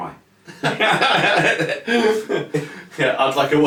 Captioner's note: laugh heartily